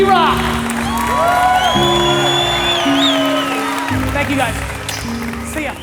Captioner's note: audience applauds, cheers